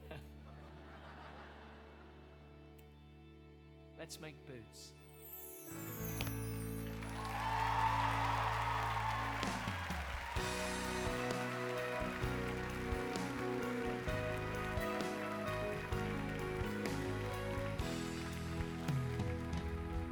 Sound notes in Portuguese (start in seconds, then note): 0.0 Charlie laughs; 0.0 audience laughing; 6.8 audience cheering and applauding